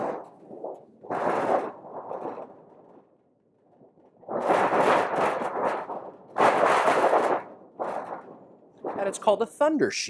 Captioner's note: thunder sounds